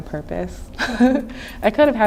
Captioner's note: laughing